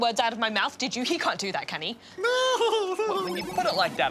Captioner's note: laughs